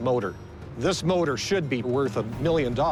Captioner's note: none